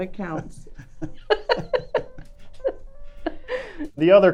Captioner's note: laughing